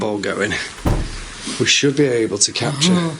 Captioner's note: door knocks